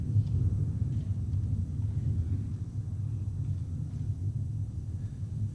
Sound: intense wind rumbles

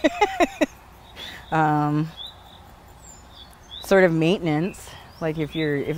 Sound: laughter

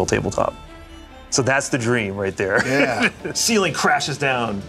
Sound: chuckles

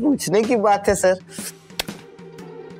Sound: smacking lips

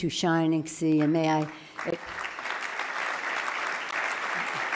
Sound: loud clapping

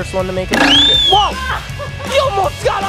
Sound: laughs; whistle blows

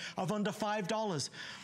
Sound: counting

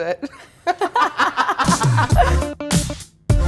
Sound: laughing; bright electronic music

